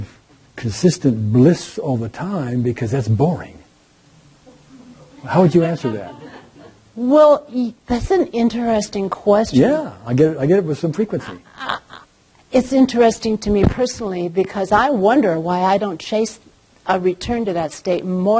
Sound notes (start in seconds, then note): 4.7 audience laughing